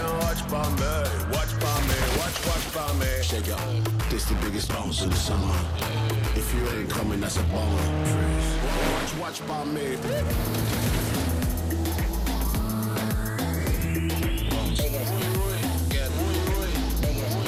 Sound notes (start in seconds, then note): 11.7 car zooms